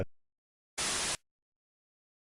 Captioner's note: Static